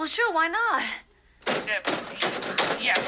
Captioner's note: knocking